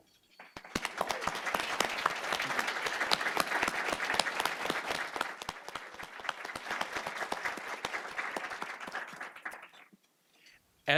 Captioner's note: applause